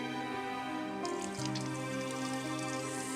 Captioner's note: water runs